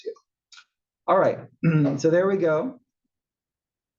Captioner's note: cough